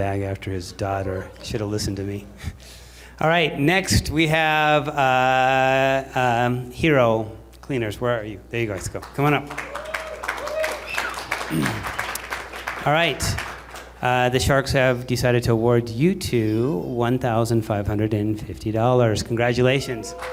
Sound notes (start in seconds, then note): 8.8 applause